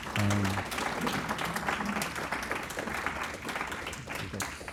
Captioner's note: audience Applauds